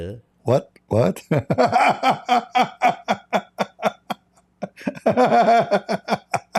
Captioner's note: Ketawa